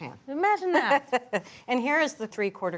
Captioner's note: laughs